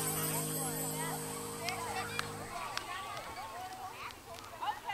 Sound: chatter

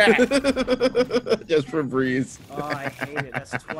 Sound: laugh

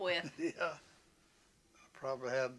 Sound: laughs

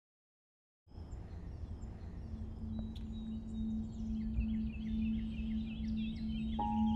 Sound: birds singing, gentle music

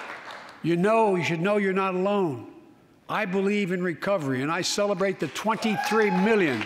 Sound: applause

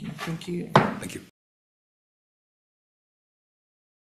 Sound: gavel bangs

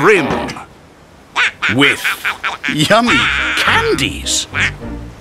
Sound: Pato laughs

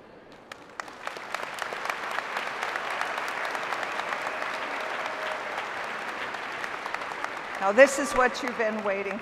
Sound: applause

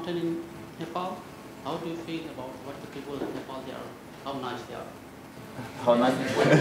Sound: audience laughter

